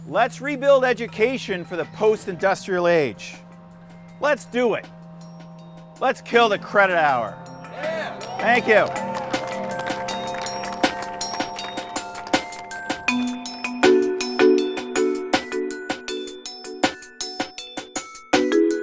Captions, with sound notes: Let's rebuild education for the post-industrial age. Let's do it. Let's kill the credit hour. (students cheer) Thank you. (upbeat music)